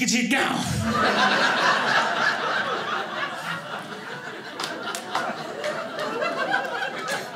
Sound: audience laughing

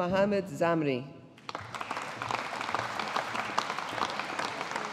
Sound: audience applauding

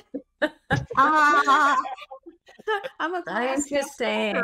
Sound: all laughing

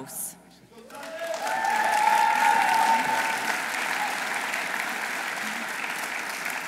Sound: audience applauding; audience cheering

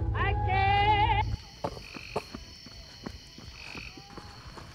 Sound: running, panting; truck on gravel approaching

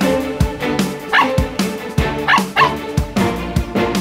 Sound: barking

